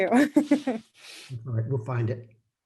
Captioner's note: laughing